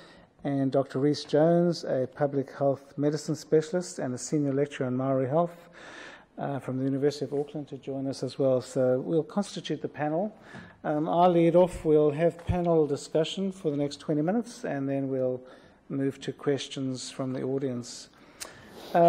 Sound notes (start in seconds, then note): none